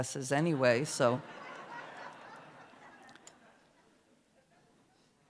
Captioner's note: laughter